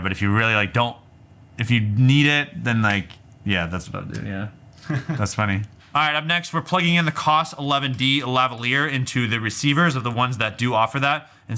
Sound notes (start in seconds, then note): 4.8 laughs